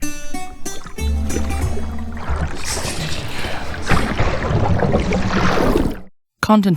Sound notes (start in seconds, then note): 0.0 Greek Music; 0.0 water flowing; 4.4 something plunges into water